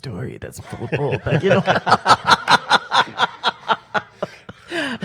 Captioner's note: panel laughs